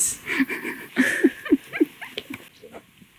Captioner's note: laughter